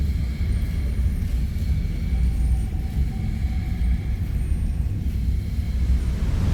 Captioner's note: ethereal, distorted vocalisations heard